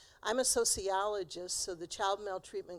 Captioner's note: none